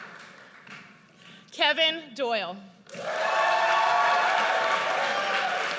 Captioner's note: audience cheers